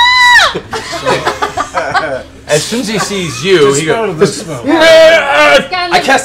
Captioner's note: pterodactyl screech; screams